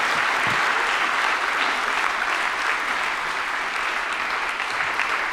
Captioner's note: audience applauding